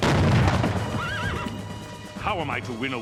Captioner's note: horse neighs